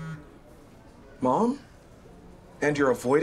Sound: phone buzz

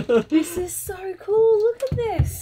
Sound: laughing

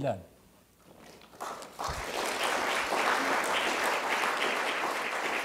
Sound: audience applauding

